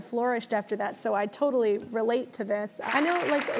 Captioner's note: audience applauding